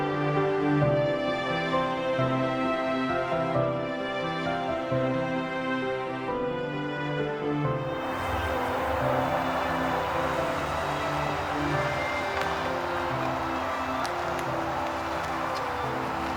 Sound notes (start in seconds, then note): 8.0 engines rumbling